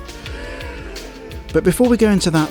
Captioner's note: crowd Shock Sound